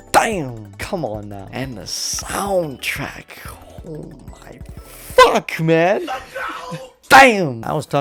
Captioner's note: chuckles